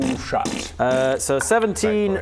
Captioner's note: pfffft